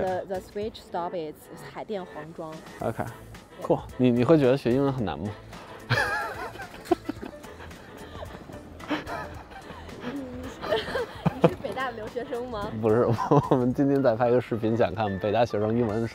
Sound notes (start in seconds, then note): 1.3 speaking in foreign language; 5.8 laughter; 10.5 speaking in foreign language